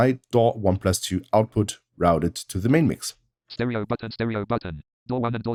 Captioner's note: automated voice